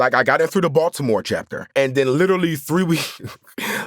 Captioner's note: chuckles